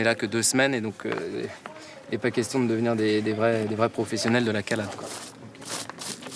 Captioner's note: paving